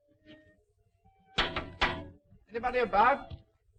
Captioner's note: knocking on door